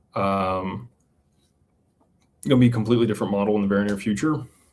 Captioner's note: none